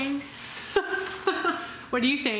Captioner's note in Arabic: ضحك